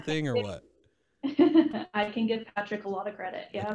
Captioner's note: laughs